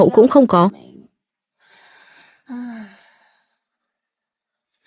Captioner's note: thở dài